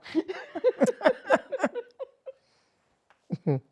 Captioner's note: laughing